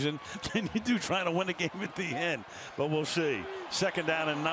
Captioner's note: laughs